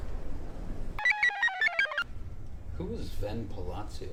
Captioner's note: computer chirps